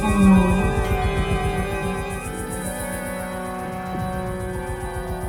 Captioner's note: dark sound persists